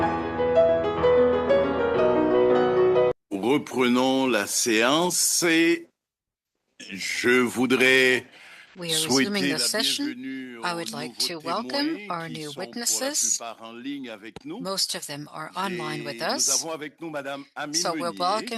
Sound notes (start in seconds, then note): 10.8 speaking French